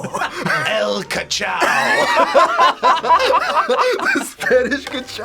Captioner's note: laughs; group laughs